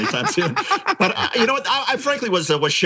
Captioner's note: laugh